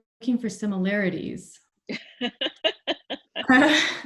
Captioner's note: laughing